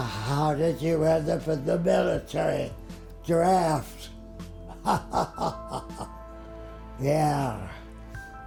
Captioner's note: laughs